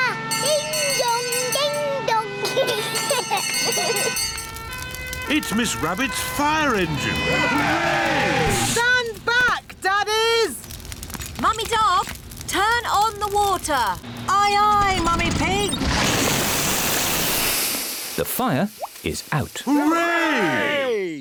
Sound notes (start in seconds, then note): 2.4 children giggling; 4.1 siren blares; 6.7 all cheer; 19.7 cheering